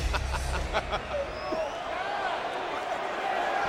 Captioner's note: Cole laughing